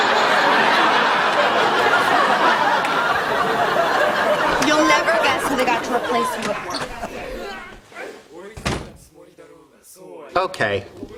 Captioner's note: laughter